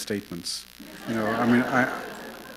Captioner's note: laughter